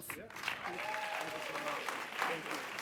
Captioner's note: audience applauds and cheers